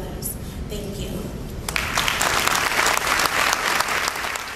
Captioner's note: applause